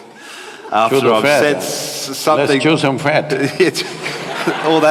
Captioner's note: laughter